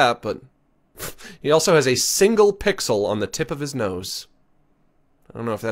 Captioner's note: laughs